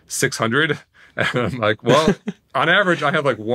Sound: laughing

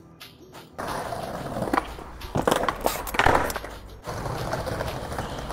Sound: skateboard rolling and clattering

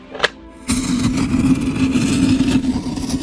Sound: fuse fizzles

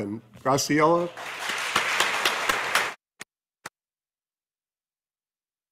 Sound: audience applauding

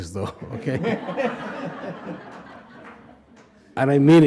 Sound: group laughing

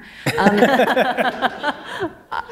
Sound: laughter

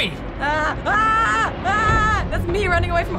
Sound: screaming

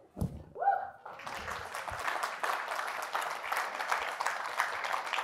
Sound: audience applauds

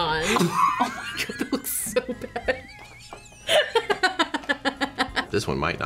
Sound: laughs

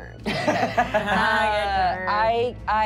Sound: laughing

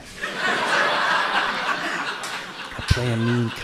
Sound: audience laughs

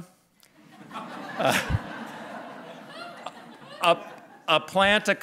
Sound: laughter

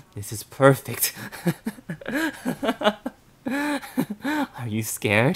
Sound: laughter

